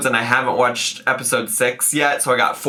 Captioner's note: none